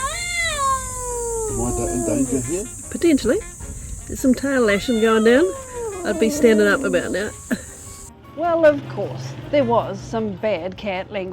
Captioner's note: cat yowling